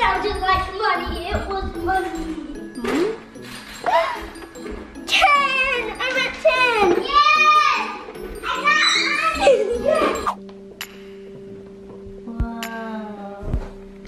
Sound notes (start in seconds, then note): 9.3 giggling; 10.9 calm music